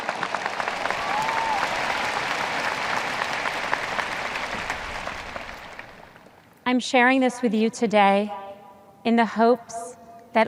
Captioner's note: audience cheers